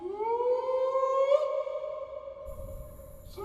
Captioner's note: howling